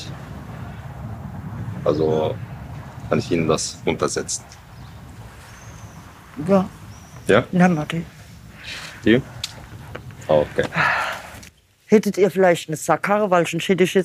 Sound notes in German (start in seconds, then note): 10.2 Seufzen